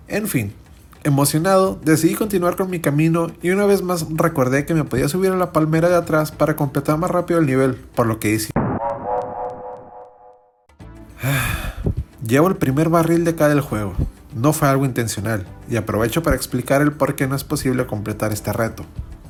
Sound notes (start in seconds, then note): 11.2 sigh